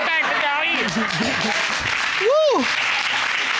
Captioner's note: applause